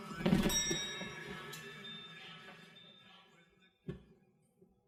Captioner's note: elevator dings